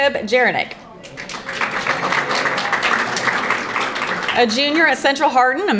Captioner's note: audience applauding